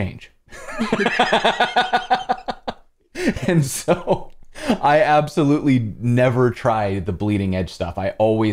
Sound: laughs

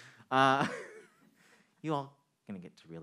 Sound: man chuckling

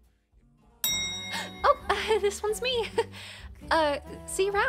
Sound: gasps

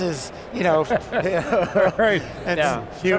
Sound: laughing

